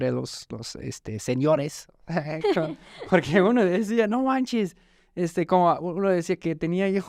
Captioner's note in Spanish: risas